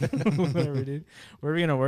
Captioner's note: laughing